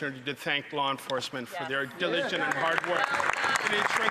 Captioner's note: some Applause